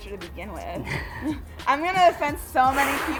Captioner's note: both chuckle